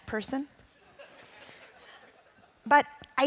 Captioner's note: audience chuckling